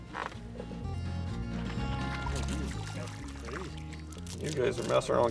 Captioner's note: water splashing